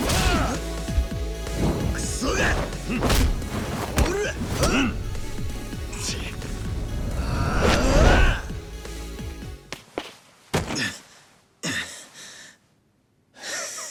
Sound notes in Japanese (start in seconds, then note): 0.1 うめき声; 6.9 うめき声